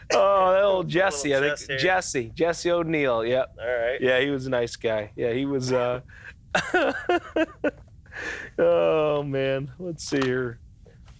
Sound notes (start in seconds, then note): 6.5 laughs